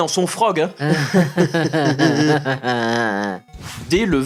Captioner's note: stupid and forced laughter